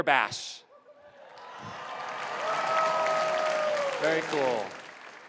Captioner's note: applause